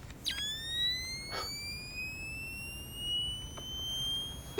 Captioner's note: device squeals